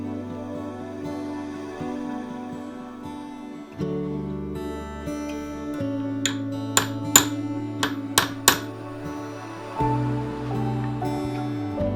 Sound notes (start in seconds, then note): 6.2 hammer banging; 9.2 gentle music